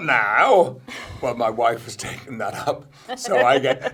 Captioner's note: laughs